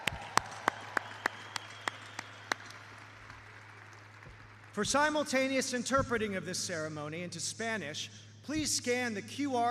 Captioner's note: cheers and applause